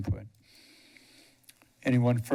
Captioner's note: pause